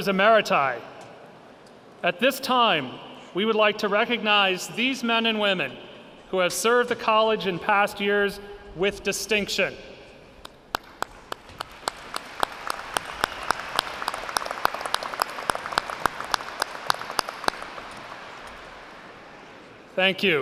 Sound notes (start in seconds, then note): 10.7 clapping, audience applauds